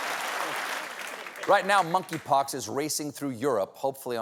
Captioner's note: applause